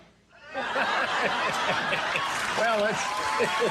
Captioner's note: audience laughing